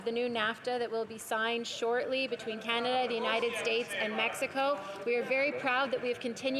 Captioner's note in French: voix de l'interprète